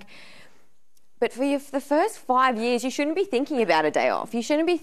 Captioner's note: none